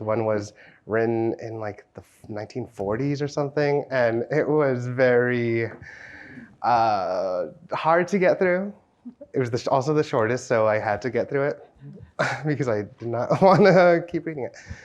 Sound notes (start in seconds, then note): 11.9 chuckles